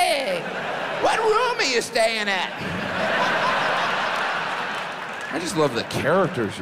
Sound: audience laughs

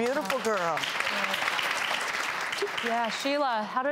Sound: audience clapping

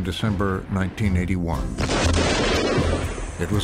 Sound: device explodes

